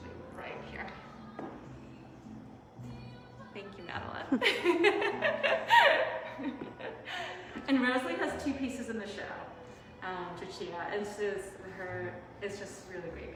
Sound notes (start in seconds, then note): 4.3 laughter